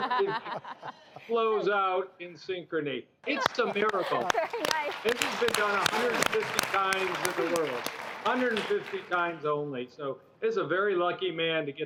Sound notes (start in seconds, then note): 3.2 laughing